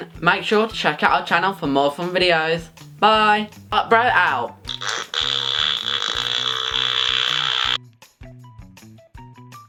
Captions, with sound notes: Make sure to check out our channel for more fun videos Bye fart bro out (FARTS)